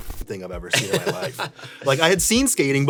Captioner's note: Tony laughs